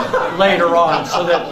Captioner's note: laughs